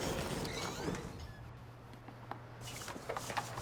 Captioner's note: door creaks open